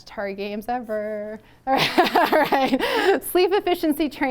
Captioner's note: laughter